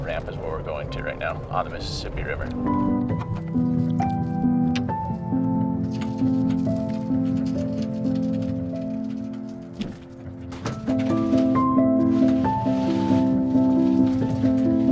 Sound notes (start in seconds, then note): 2.5 gentle music; 6.1 metal cracking